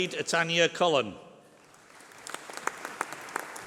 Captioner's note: applause